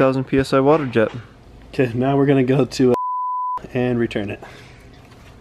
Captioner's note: beep